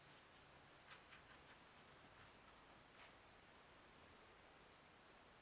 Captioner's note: paintbrush scratching